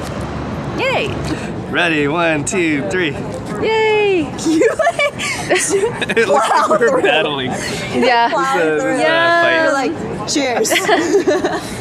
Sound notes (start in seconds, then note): 4.5 haha